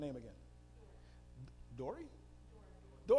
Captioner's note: female audience member speaking